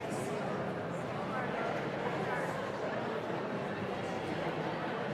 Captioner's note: indistinct audience chatter